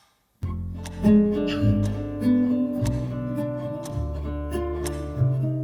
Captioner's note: clocks ticking ominously